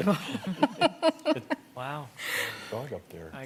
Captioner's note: laughter